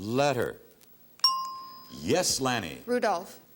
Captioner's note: ting